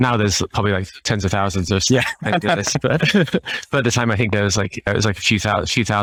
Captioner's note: laughing